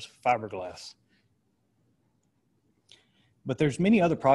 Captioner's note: silence